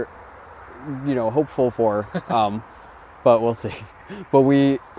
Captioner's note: chuckling